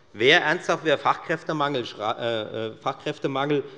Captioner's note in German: none